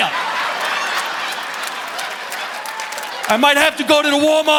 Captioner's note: audience laughing